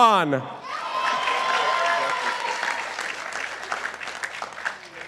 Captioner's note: participants applauding